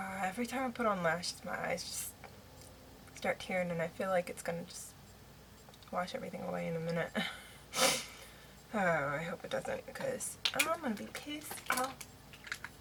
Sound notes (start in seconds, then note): 7.3 sniffles; 7.5 laughs